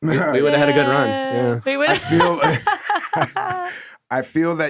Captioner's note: laughing